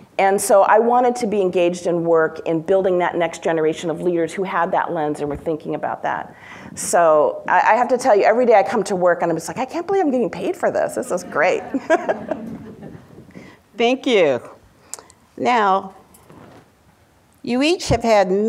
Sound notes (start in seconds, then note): 11.2 laughs